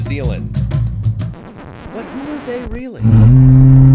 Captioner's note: record scratches; horn blows